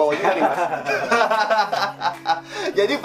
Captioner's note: awkward laugh part II